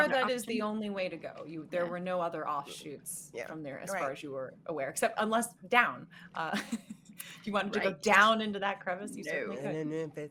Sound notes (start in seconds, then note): 6.8 laughing